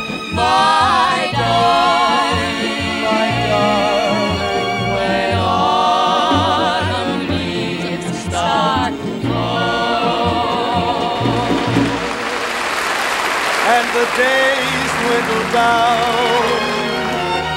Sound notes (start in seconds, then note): 11.2 audience applauds